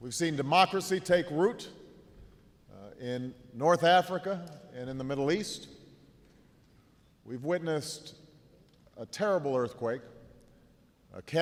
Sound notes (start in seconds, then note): none